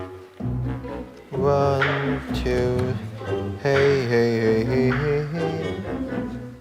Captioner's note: humming